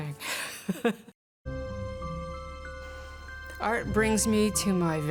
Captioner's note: laughs